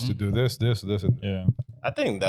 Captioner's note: none